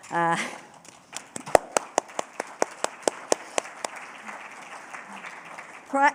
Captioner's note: applause